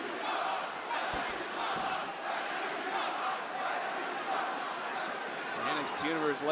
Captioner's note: crowd chants